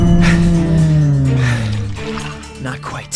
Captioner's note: catching his breath